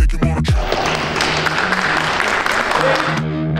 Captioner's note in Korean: 열연에 박수 짝짝짝